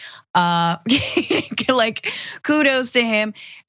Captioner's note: laugh